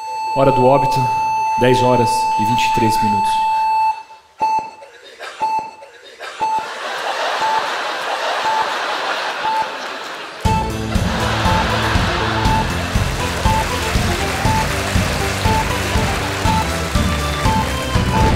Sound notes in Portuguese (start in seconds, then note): 0.0 bipe de parada cardíaca; 4.2 bipes de monitor cardíaco; 10.4 tambor; 10.5 chimbal; 18.1 aplausos; 18.1 explosão